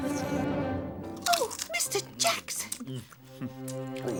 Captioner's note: crunching